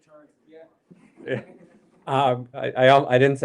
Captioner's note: laughter